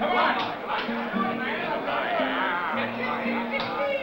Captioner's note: chattering